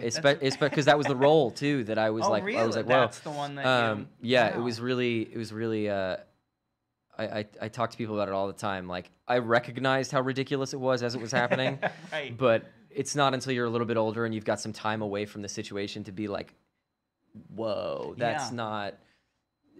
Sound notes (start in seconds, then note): 11.2 laughs